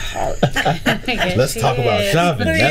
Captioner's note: group laughing